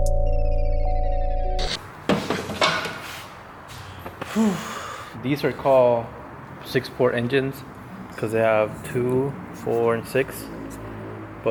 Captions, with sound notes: (exhales) These are called Six Port Engines 'cos they have two, four and six